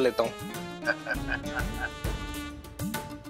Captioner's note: laughing